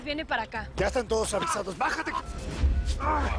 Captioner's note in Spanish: Quejidos